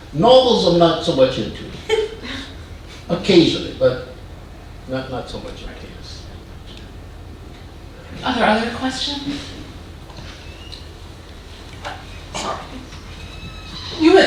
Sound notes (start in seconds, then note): 1.8 woman chuckling